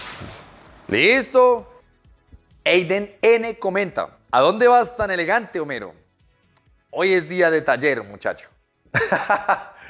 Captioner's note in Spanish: Risas